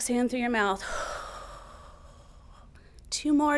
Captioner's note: exhaling